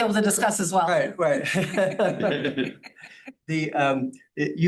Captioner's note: laughing